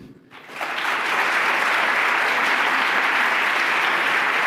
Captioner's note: applause